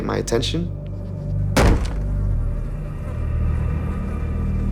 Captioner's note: loud thump